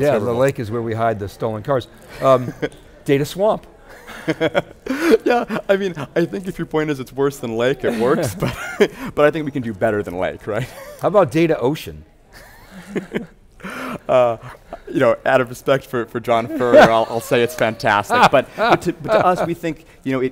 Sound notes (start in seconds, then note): 12.3 laughter